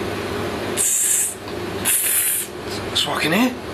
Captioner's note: hissing; hissing